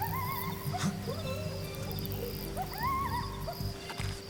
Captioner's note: animal yelling